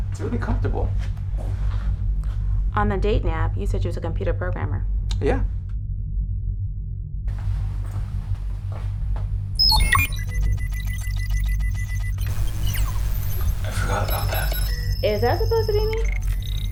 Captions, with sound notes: It's really comfortable. - On the dating app, you said you was a computer programmer. - Yeah. (electronics ring) I forgot about that. - Is that supposed to be me?